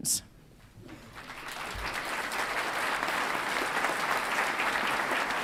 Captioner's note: audience applauds